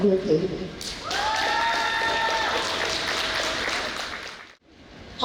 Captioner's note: audience applauds